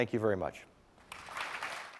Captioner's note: applause